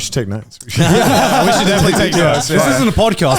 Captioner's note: all laughing